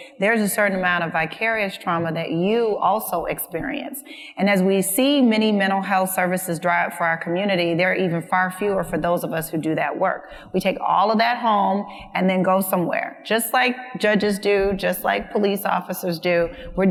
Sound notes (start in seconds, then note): none